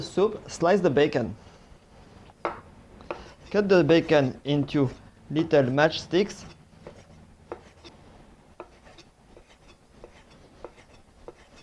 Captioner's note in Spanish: sonido cortando